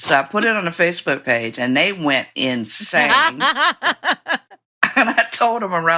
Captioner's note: laughter